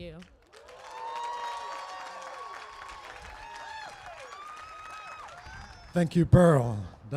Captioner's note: applause